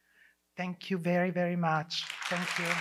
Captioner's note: audience applause